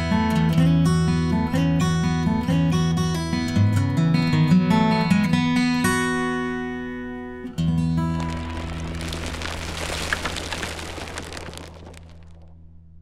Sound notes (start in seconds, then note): 8.0 falling cement